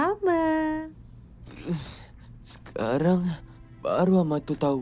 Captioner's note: groans weakly